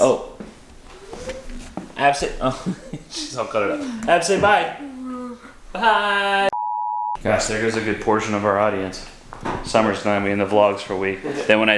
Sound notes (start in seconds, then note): 6.5 beep